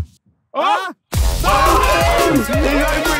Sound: epic music continues; Sidemen exclaiming

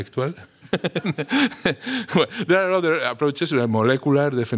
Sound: laughter

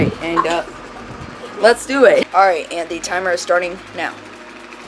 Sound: laughs

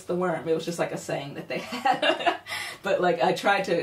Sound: laughs

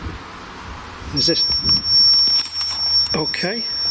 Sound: feedback squeals

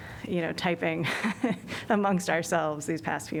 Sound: laughter

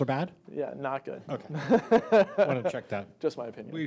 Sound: laughing

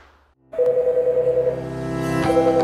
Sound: phone ringing

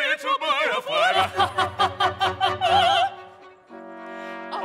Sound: laughing

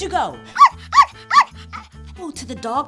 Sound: puppy barking

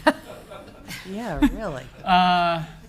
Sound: people laughing

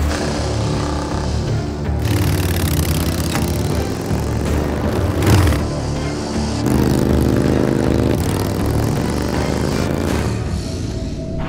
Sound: motorcycle engine roaring

